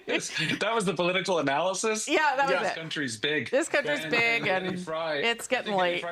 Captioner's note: laughter